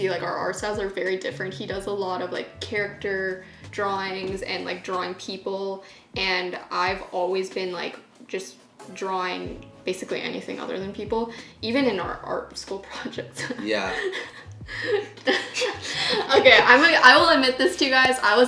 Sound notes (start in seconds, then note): 13.3 both laughing